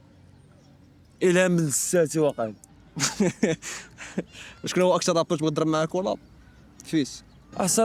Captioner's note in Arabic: ضحك